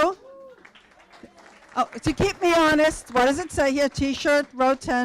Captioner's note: applause